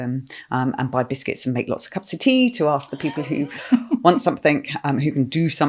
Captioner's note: laughing